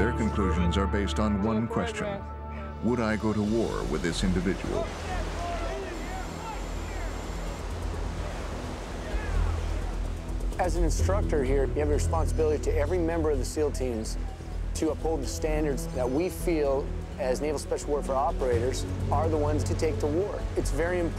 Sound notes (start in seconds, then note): 7.7 yelling and cheering; 10.7 voiceover